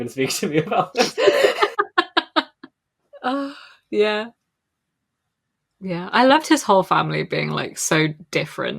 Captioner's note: laughs